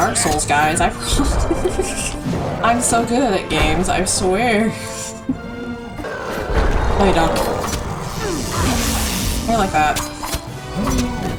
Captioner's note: starts chuckling